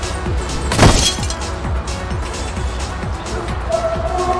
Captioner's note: glass shattering